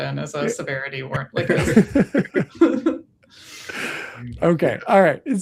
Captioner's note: laughter